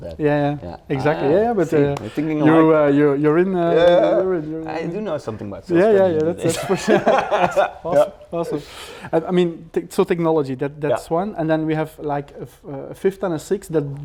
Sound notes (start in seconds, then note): 6.4 laughs